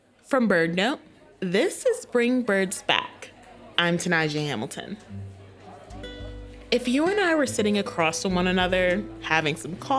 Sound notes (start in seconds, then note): 5.8 coffee shop ambience fades in